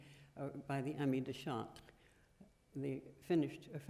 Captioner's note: french